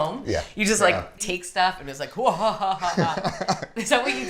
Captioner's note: laughing; fake laughs